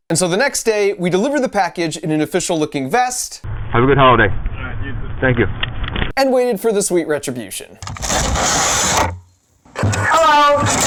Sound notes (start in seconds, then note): 7.8 box opening noise